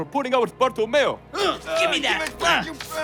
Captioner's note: grunting